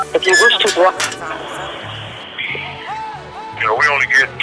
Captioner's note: roaster closes